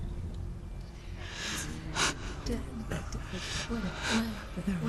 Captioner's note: breathing